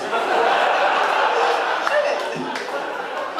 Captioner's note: audience laughing